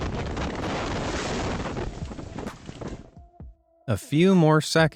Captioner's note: wind whooshing